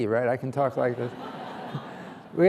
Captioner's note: laughter